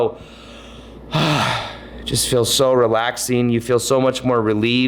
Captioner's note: sighs